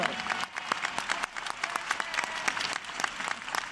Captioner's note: applause